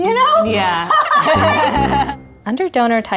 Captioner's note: all laughing